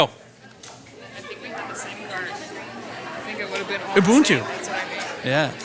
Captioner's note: participants conversing